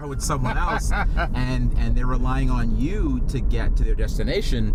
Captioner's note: laughing